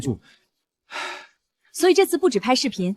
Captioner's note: sigh